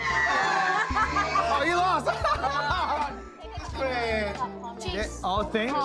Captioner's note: all screaming; laughs